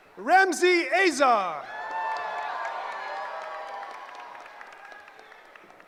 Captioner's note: cheering